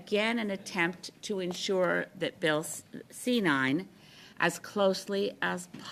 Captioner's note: speaking French